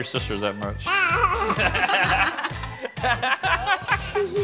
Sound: laughter

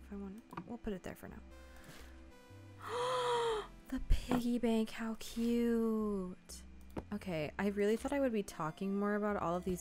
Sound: gasps

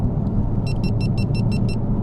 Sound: Gopro Beeps

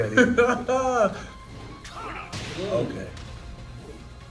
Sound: laugh

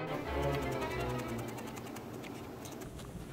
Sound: crunching sounds

